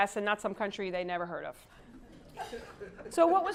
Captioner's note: laugh